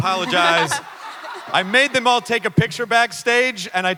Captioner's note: Ridley et al laugh